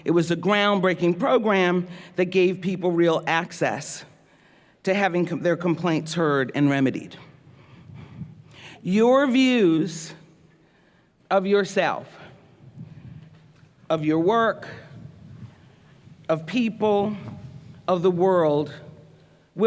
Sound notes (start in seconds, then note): none